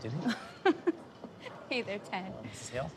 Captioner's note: giggling